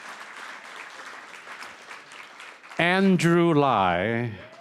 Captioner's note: applause